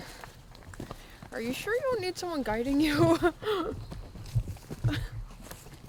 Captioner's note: riendo